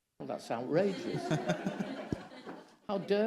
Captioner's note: all laughing